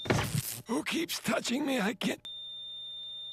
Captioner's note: thwack; flat tone